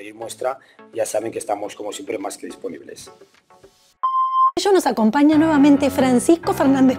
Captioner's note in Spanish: Sonido bepp